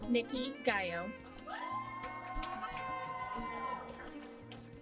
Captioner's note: applause